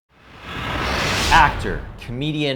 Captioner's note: digital whooshing